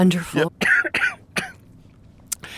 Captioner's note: coughing